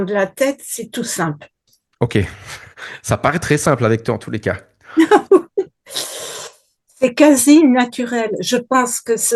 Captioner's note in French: rires